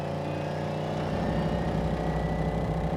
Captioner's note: engine revving